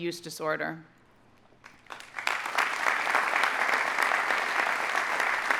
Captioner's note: audience applauding